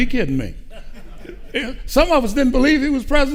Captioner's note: audience laughing